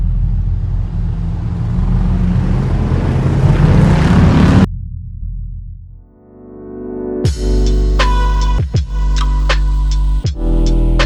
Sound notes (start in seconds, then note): 2.7 motor revving; 6.9 mellow uptempo music